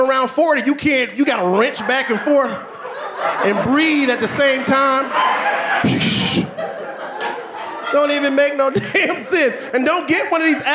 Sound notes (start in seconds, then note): 6.0 audience laughing; 6.8 swooshing